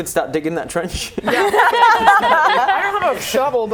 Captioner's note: laughing